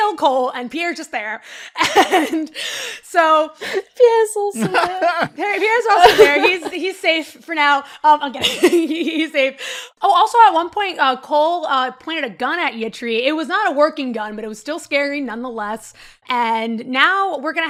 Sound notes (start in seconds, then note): 4.5 laughs; 5.9 laughter; 7.9 laughing